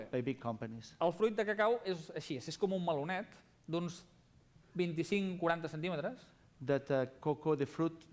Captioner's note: non-english speech